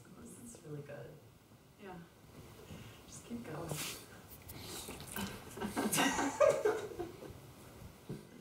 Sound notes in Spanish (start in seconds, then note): 5.5 el equipo ríe